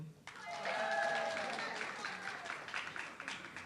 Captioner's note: audience clapping